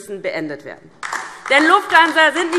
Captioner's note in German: Beifall DIE LINKE